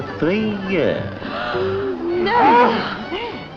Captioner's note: all gasp